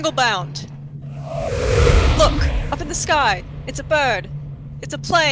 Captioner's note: loud rush of air